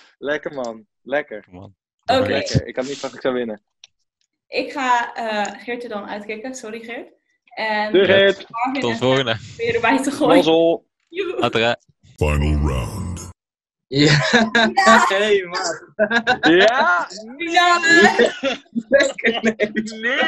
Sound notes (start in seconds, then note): 13.9 surprised noises; 15.9 nervous laughing; 17.2 bigger surprise noises